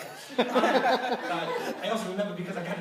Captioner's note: laughter